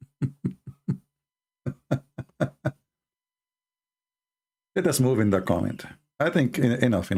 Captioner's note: Ketawa